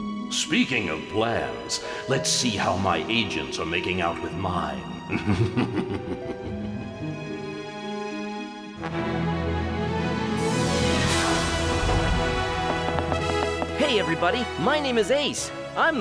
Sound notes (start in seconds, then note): 5.0 chuckling